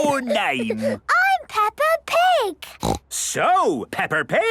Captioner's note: Peppa giggles; snorts